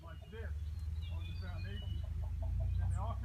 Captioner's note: workers Chatting